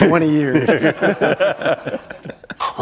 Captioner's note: laughter